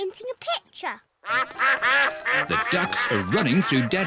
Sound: quacking

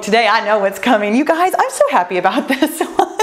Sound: laughs joyfully

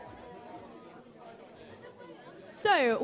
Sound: chatter

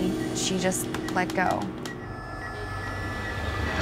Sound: beeping; ominous music

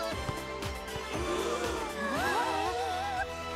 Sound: all gasp

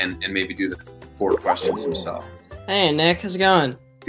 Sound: bubble pops

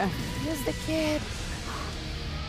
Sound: whispers

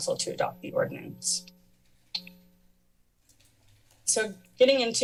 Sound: pause

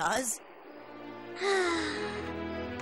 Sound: sighs

